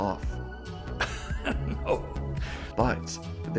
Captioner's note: Evans, chuckling